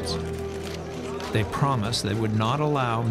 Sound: camera shutters clicking

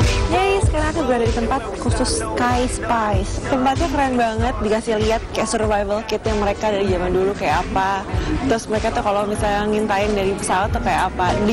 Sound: non-english speech

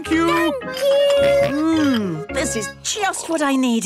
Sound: snorts

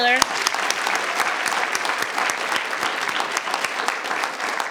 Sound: audience applauding

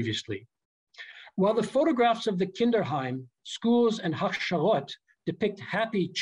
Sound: german

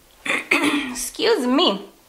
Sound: clears throat

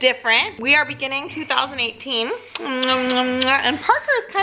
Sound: kisses

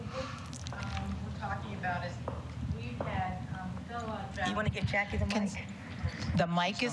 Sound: off mic

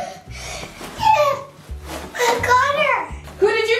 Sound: gasps

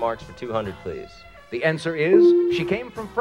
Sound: tone dings

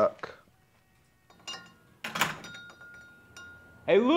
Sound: door closes

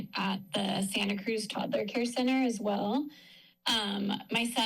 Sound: none

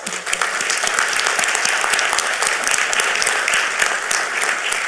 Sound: audience applauding

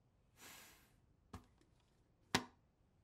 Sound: sigh

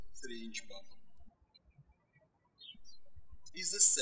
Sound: birds chirping

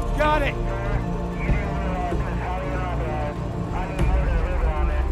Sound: radio chattering

